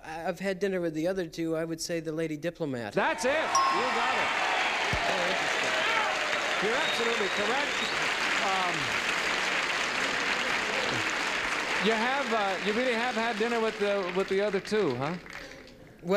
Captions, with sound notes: I've had dinner with the other two, I would say the lady diplomat. (ding) -That's it. You got it. -More interesting. (applause and cheering) -You're absolutely correct. You have--you really have had dinner with the other two, huh?